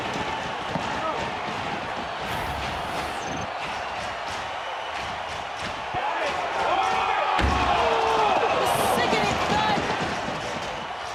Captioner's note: audience cheering